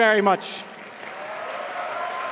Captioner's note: applause